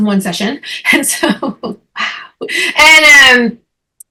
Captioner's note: chuckling